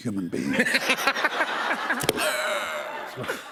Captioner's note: laughter